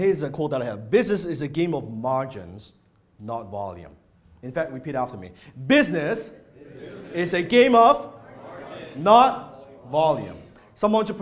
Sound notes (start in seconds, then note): 6.2 crowd